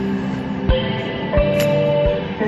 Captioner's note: Skytrain Chime